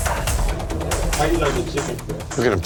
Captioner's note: chatter